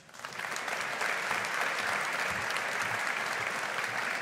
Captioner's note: audience applauding